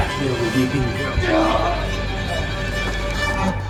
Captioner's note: Sam screaming; multiple distant birds